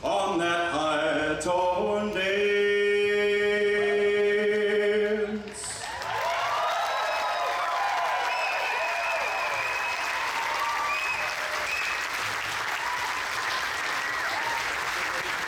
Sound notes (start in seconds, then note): 5.5 audience applauds; 5.7 audience cheers